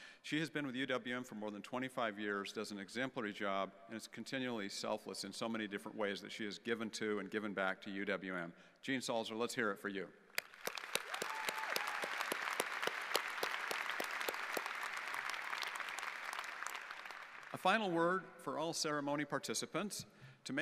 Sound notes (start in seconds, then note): 10.3 audience applauding